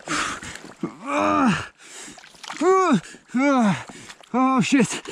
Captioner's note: groaning